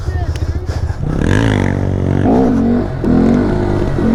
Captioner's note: revving